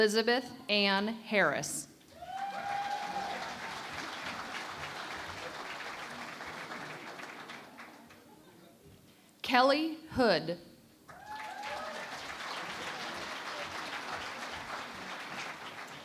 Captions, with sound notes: Elizabeth Ann Harris. [ Cheering and Applause ] Kelley Hood. [ Cheering and Applause ]